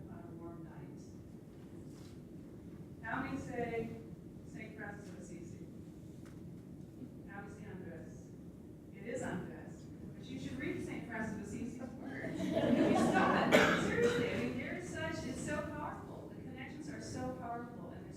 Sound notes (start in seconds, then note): 12.1 laughter